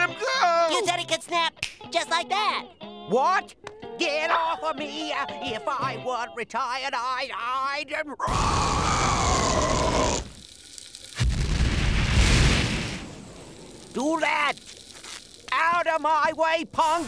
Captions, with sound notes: But you said he could snap... [snapping] just like that. What?! Get off of me! If I weren't retired, I'd, I'd... [roaring] ...do that. Out of my way, punk!